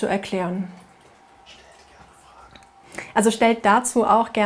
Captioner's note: man, whispers